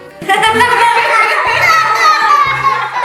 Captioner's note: laughter